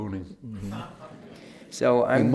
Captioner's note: laughter